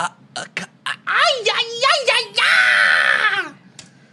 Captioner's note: stutters; screeching